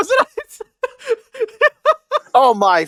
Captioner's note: laughing in italian